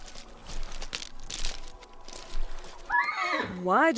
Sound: horse neighs

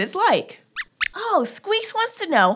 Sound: squeaks squeaks

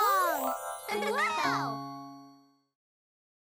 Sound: chuckles

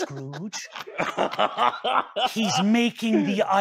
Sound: "Oh shit" laughter

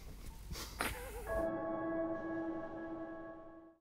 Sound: chuckles

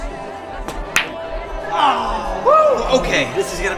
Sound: balls banging

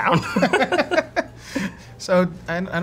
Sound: laughing

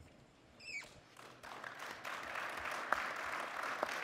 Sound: audience applause

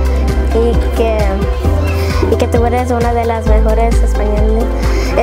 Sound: student continues speaking Spanish

